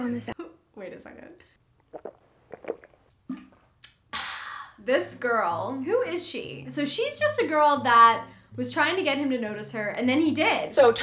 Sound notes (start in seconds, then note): 1.8 smacks lips; 1.9 gulping